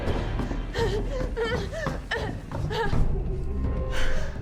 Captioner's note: Claire gasping